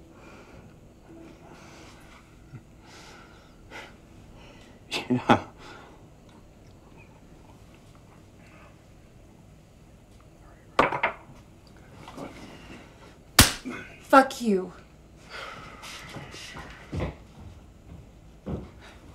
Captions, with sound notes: (Ben chuckles) Yeah (laughs). (glass thuds) Okay, go ahead. (hand slaps) - Fuck you. (Ben sighs) (footsteps retreating)